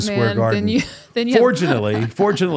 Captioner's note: laughs